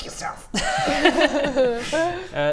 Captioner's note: laughs